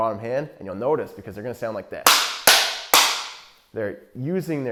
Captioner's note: banging